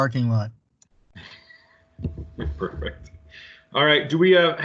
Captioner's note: laughs